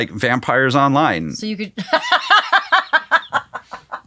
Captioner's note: laughing